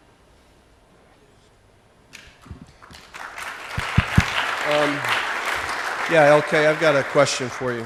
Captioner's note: applause